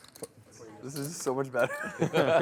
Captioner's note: voiceover